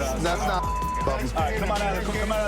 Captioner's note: chatter